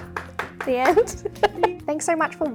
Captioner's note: applauding; laughs